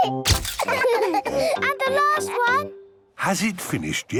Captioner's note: all laughing